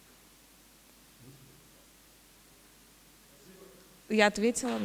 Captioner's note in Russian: тишина